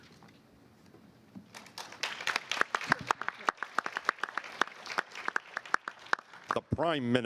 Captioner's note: applause